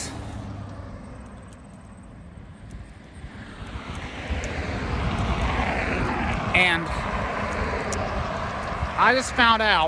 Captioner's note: Traffic on Paulding Road